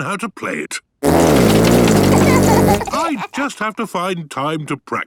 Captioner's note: laughter